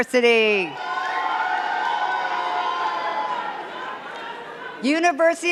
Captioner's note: cheers and claps